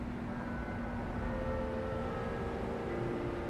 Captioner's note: church bells chime